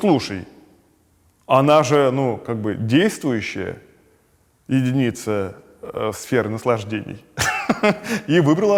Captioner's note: laughs